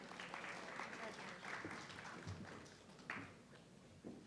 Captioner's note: audience clapping